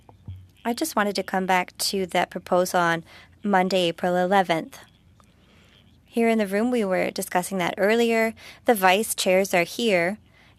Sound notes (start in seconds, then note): 1.7 speaking French